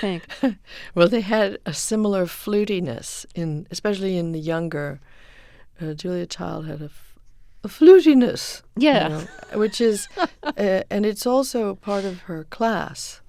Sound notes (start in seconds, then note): 9.1 soundbite of laughter